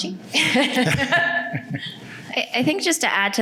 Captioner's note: laughing